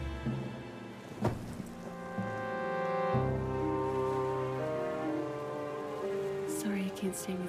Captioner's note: pensive music; John thuds